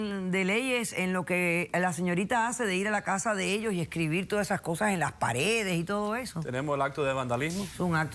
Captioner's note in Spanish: none